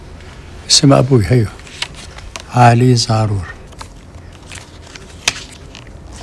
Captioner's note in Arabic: يتحدث بلغة أجنبية